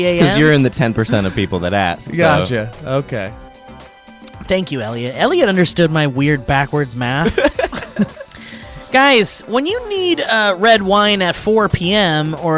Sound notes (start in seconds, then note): 7.2 laughs